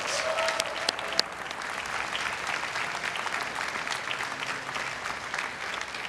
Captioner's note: everyone cheering and applauding